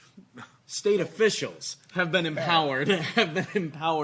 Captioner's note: laughing